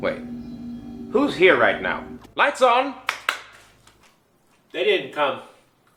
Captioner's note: claps